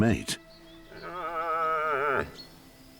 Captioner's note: calls